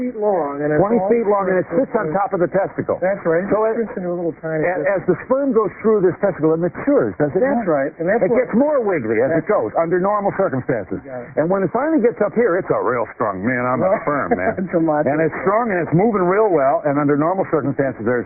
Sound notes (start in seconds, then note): 13.7 laughter